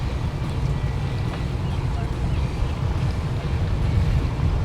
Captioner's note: winds blowing